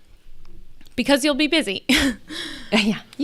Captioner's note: laughs